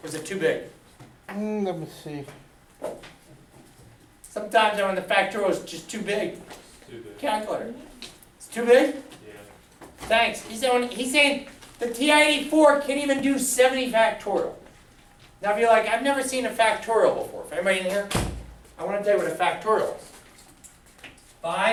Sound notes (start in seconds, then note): 2.0 voiceover